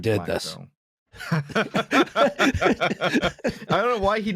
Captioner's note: laughter